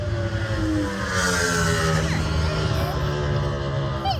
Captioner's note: engine roaring; screaming